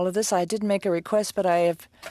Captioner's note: speaking French